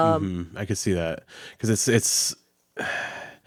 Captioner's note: sighs